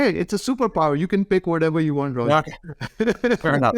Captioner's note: laughs